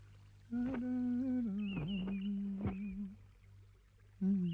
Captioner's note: hums